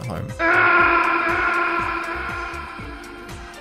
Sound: Solid Snake's Metal Gear Solid 1 death scream

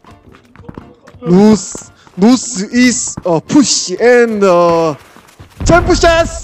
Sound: in broken English

